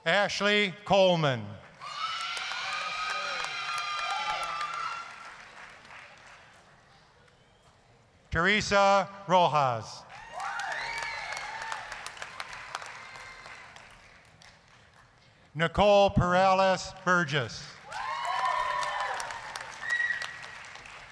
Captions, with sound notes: ASHLEY COLEMAN... (applause, screaming) TERESA ROJAS... (applause, cheering) NICOLE PERALES-BURGESS... (applause, cheering)